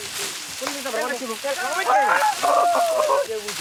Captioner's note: Fijian spoken audio